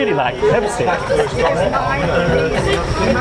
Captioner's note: laugh